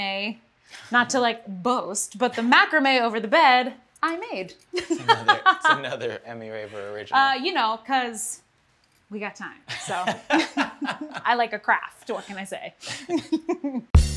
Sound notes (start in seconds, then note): 4.7 laughter; 9.7 laughter; 12.9 laughter